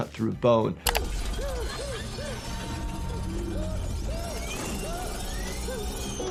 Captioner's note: character whimpering and screaming